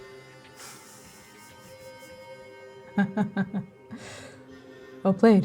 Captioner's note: chuckling